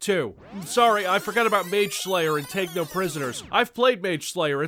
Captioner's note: tape rewind SFX